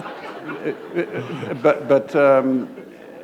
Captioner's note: laughter